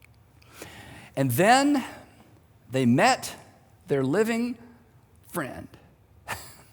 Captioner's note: chuckles